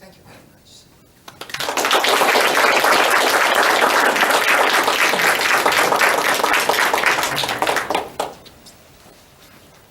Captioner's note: applause